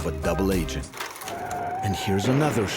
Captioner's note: clattering; screeching